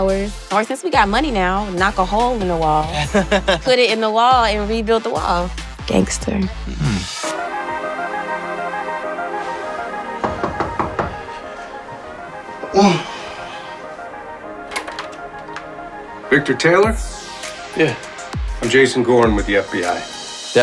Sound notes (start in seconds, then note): 7.5 mellow music; 10.2 knock